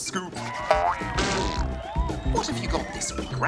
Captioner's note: cheering, applause